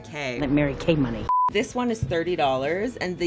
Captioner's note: beeping